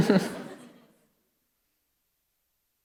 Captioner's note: laughter